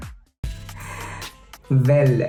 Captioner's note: chuckles & sighs